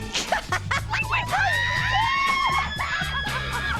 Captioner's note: laughs; laughter